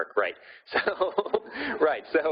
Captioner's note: laughing